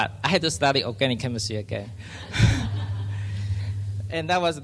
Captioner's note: laughs